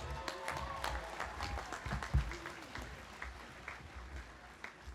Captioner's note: audience applauding